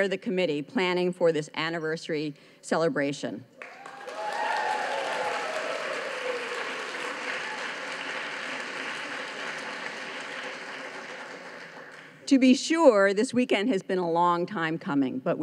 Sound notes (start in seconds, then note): 3.6 audience cheers